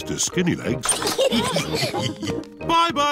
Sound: all laugh

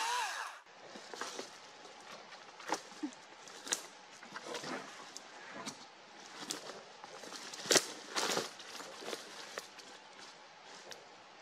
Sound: chainsaw running; leaves and branches crackling, chickadees chirping

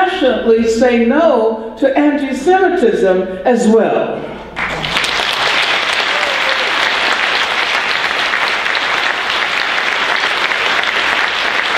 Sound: applause

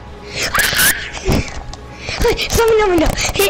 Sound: screams softly

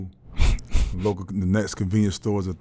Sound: laughing

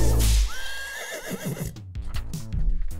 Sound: horse neighing

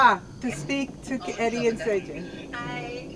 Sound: in Korean

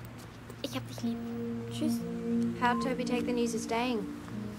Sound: in German

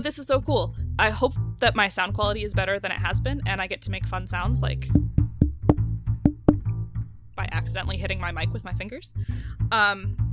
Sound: tap tap tap

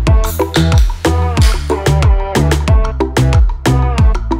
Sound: can opening

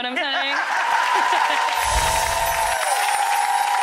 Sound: applause

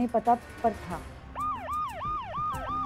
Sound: siren wailing

